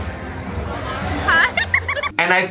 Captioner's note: giggling